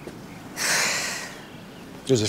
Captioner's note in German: Seufzen